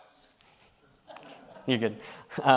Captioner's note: chuckles